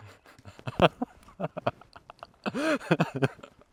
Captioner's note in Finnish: naurua